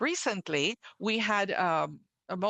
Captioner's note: speaking French